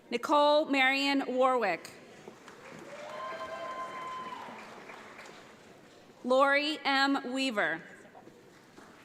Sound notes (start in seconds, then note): 2.3 audience applauds